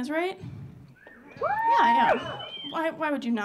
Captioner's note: audience cheering